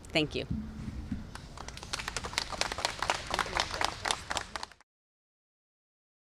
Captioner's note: applause